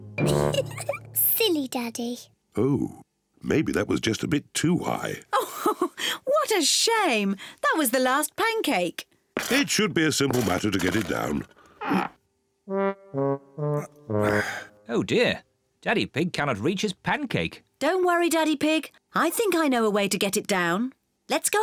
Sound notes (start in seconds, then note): 0.2 giggles; 5.4 laughs; 11.8 grunts; 14.2 sighs